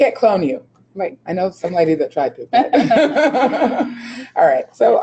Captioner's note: laughing